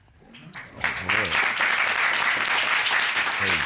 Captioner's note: audience applause